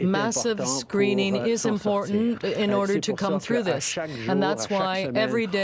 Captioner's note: speaking French